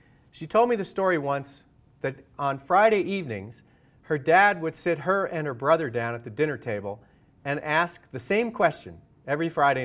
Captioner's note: none